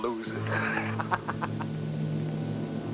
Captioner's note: laughs